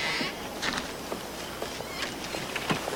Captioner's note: creaking of hinges